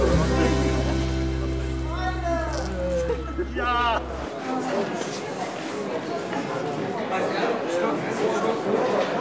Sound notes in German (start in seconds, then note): 0.0 Musik endet; 4.2 Leises Stimmengewirr